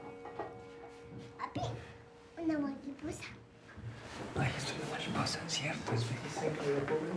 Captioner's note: speaking in foreign language